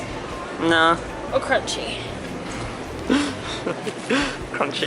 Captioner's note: laughing